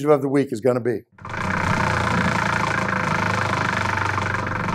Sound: wheel whirs

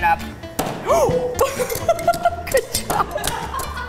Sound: laughs; laughter

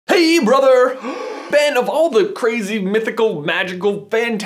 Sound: gasp

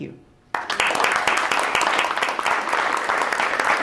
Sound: applause

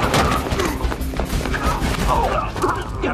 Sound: squealing of tires; grunts of struggle

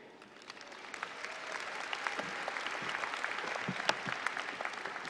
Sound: applause

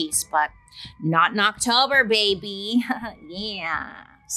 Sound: chuckles

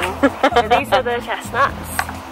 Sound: laughing

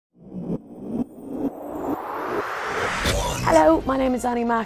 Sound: air whooshes

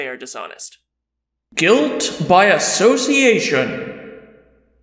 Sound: voiceover

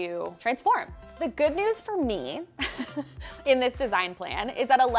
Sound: laughs

